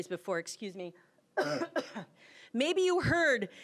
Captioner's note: coughing